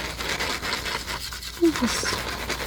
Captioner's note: scratching